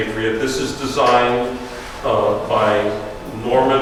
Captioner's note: none